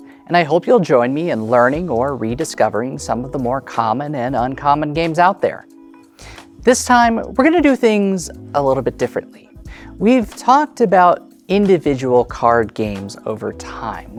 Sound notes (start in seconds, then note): none